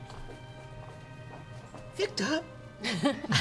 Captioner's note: hoarsely; laughter